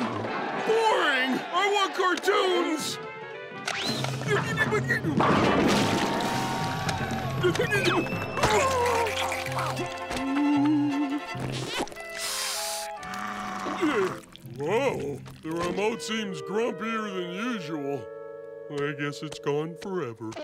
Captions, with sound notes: Boring! I want cartoons! Oh! Oh... [hissing] [growling] Whoa, the remote seems grumpier than usual. I guess it's gone forever.